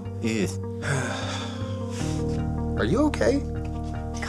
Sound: sighing

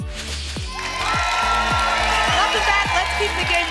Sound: applause and cheering

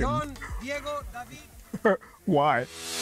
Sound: laughter

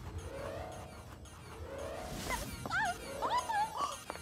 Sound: humming

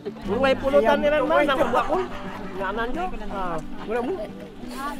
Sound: people conversing

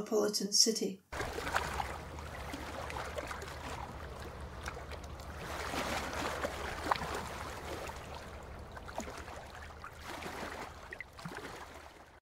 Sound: water lapping

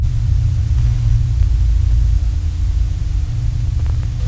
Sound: dissonant music; static hissing

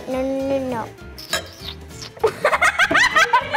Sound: boy smooching; glass clinks; both laughing

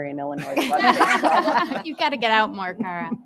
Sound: attendees laughing

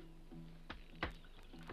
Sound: drink splashes

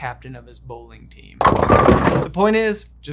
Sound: bowling pins thudding

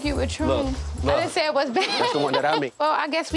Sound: laughs

